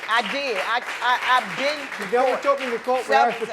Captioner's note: stuttering